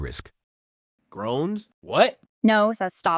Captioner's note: groans